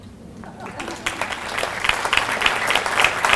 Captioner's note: applause